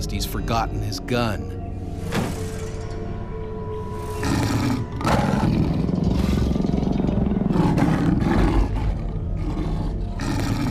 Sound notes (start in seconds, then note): 4.0 growling and roaring